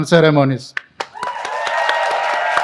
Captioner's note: applause